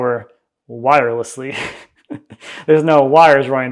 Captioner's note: laughs